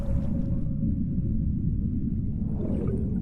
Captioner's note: low rumble